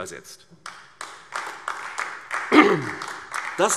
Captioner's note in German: Beifall AfD